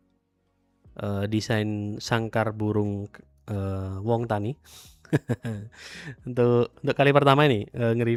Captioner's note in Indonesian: tertawa